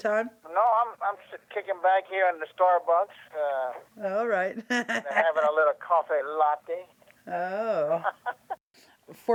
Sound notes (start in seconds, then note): 7.6 laughs; 7.8 both laugh